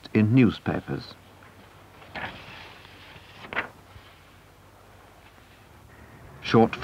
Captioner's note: paper rustle